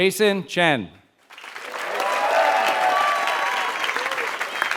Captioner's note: applause